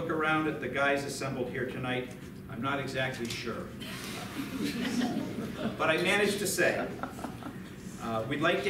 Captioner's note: light laughter